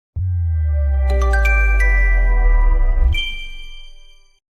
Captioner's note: chime